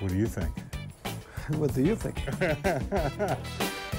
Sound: laughs

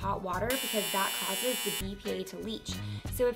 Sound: buzzing

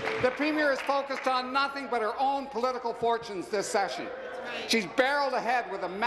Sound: applause

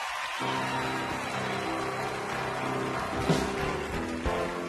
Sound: audience cheering

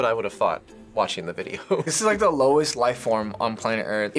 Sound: chuckles

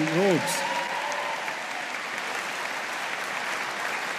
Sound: audience applauding

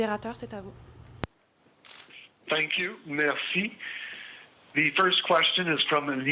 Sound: speaking french

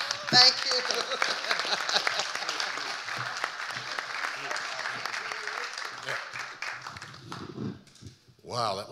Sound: audience applauding; laughing

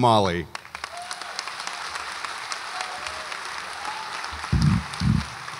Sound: audience applauds

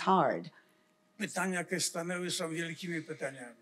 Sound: foreign language

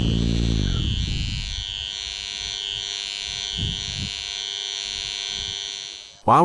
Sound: 50Hz vibration heard from harvester

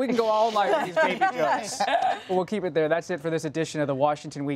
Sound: laughter

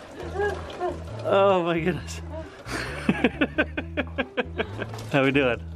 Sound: continues laughing

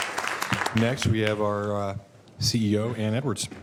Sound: applause

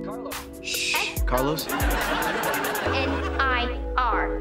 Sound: audience laughing

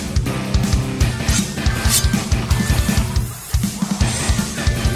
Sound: swords slashing

